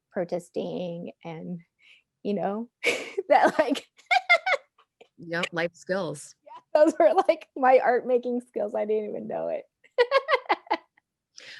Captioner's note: laughing